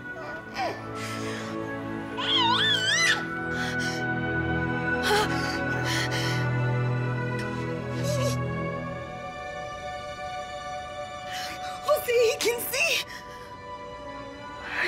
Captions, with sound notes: [baby makes a joyful noise] -Jose he can see!